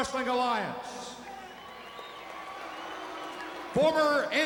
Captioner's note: crowd cheering